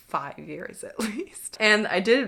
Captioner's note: chuckles